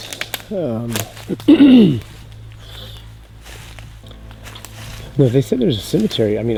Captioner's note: twigs crunching; throat clearing